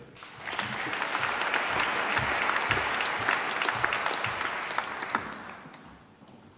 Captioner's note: applause